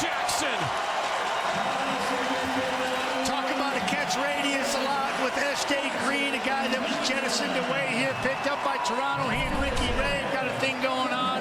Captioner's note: crowd Noise